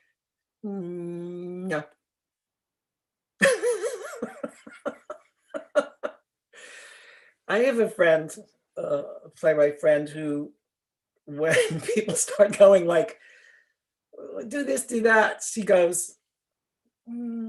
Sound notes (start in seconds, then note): 5.7 laughter